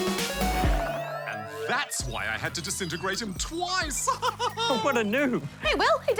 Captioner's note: laughs